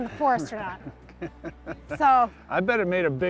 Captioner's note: laughs